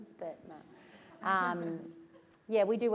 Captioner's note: laughter